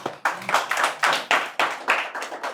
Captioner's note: audience claps